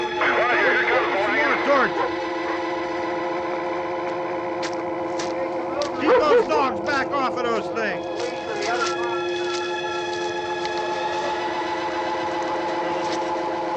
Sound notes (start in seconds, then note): 0.1 voices on police radio; 4.6 footsteps